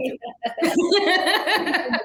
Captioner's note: laughter